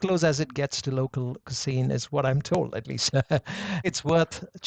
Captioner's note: chuckles